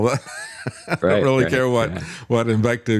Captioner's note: laughs